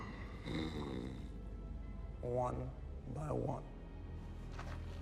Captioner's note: growls